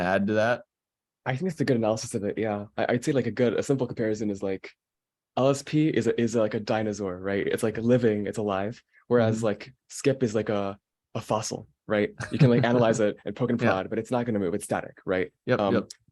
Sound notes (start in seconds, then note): 12.2 laughing